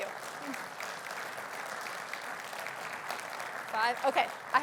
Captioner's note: audience applauding